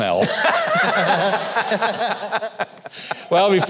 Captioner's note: both laughing